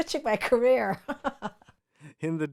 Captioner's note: laughing